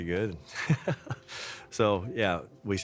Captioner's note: laughter